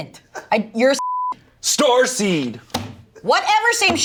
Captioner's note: beep